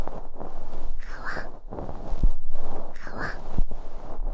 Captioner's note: soft fluffy sounds